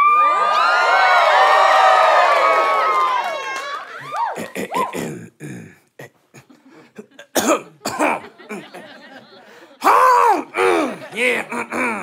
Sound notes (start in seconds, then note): 0.0 audience cheers; 4.4 clears throat; 6.8 coughs more forcefully